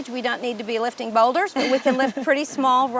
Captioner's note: laughing